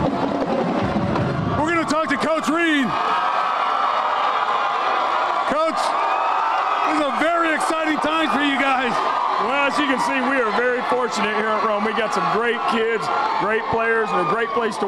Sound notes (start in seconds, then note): 7.3 cheers and applause